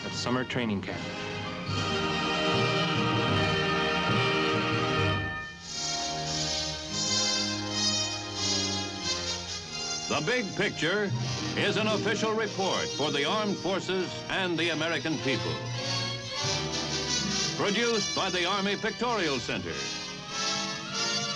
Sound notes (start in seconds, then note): 10.5 male Voice